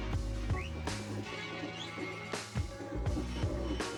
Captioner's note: whistling and falling horse